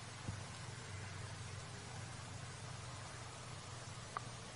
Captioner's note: water falling